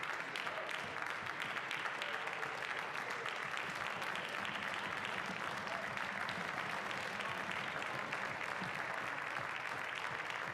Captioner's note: some applause